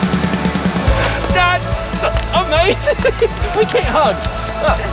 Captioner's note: laughs